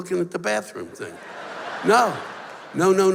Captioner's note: laughter